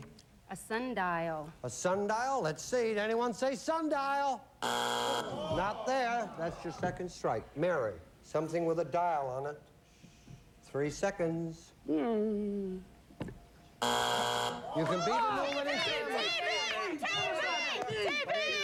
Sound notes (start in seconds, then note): 4.6 buzzer; 13.8 buzzer